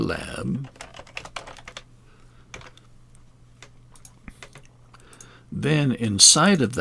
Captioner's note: keys and mouse clicking